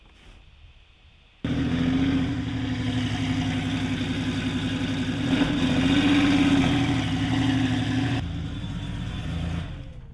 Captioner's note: gorgeous engine note